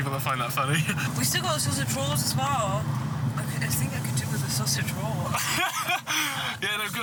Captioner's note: laughter